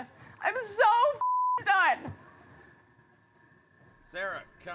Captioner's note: beep